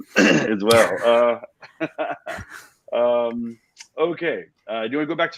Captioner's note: both laugh